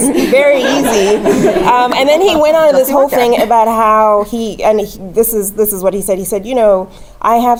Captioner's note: laugh